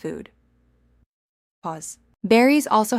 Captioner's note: pause